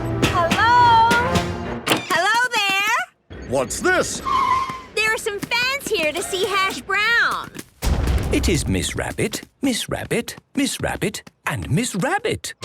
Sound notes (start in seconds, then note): none